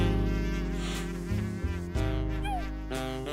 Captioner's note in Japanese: 息を吸う